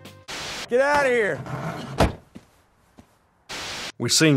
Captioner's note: door thumps